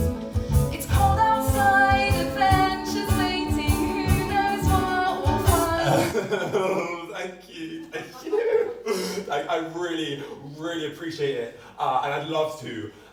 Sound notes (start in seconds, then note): 5.8 Hobie laughs awkwardly